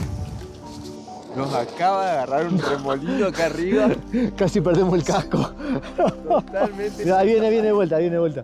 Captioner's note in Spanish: risas